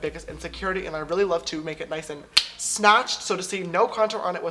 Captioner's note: snaps finger